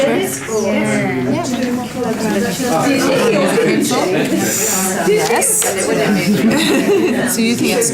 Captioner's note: participant chatter